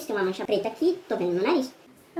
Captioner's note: high pitched voice